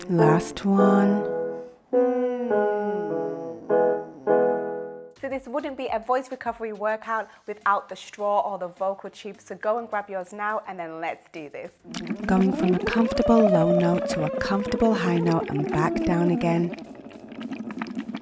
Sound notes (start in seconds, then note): 1.8 piano scales continue; 1.9 humming continues; 11.8 water bubbling through straw; 11.9 humming